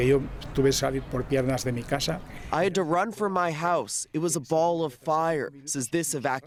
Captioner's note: speaking alternate language